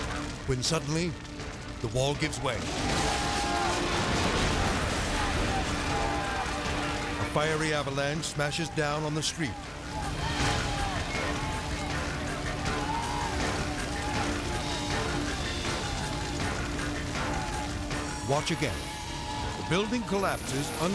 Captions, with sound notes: When suddenly, the wall gives way. (people shouting) (wall crashing) The fiery avalanche smashes down on the street. (people shouting) (fire crackling and whooshing) (dramatic music) Watch again. The building collapses,